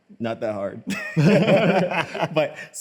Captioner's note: both laugh